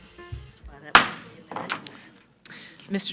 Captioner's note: gavel bangs; audience chattering